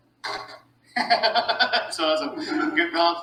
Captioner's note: laughing